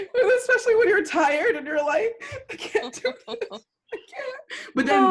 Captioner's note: laughter; laughter